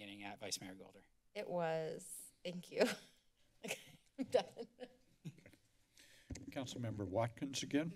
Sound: laughs

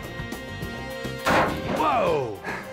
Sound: gun firing

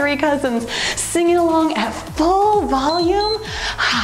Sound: timer beeps

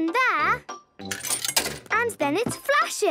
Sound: coin tumbling

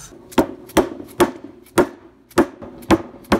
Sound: hammer hits

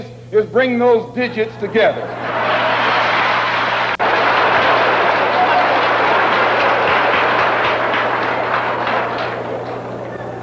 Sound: applause

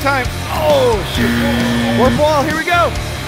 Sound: buzzer

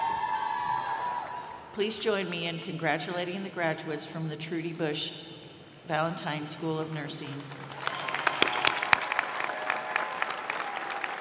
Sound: cheers and applause

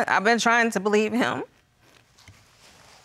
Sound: voice breaking

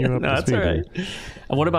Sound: laughing

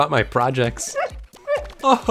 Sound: Learndog barks

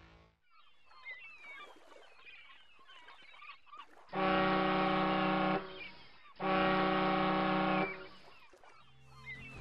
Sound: shore birds chirp...ferry horn blows

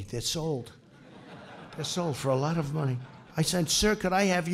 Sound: laughter

